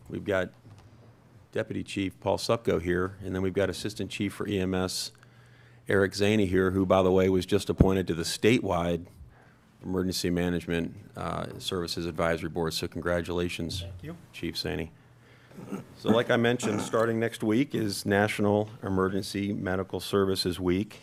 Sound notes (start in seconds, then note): 15.5 clears throat